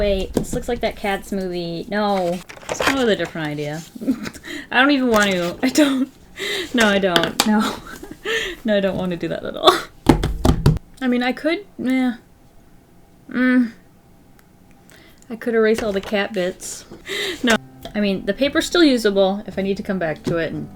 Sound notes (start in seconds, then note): 4.0 laughs; 7.5 laughs